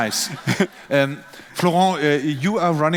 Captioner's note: laughing